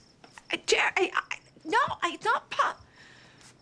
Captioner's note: stammering